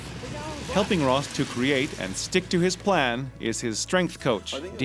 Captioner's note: voiceover